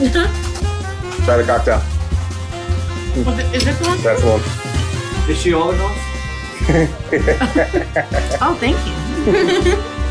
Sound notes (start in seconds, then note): 7.3 background laughs; 9.8 laughs